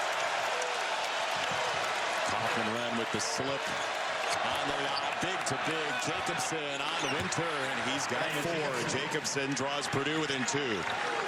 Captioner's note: cheers and applause